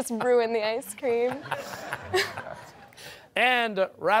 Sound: laughter

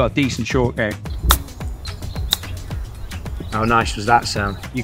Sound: golf club clacks

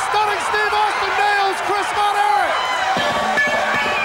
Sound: bell ringing

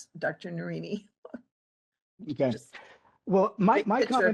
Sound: laugh

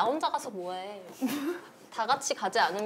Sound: failing not to laugh

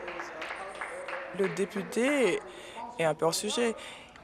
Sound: applause

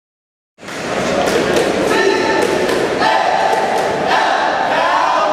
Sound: loud group cheer

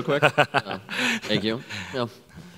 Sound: laughs

